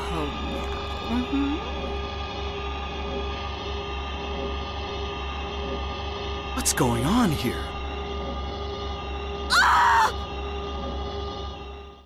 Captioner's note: Alessa screams